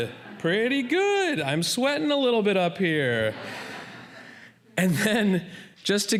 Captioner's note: laughter